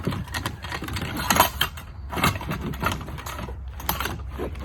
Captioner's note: items clattering